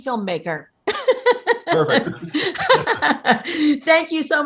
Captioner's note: laughing